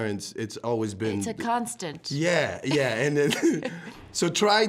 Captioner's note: both chuckling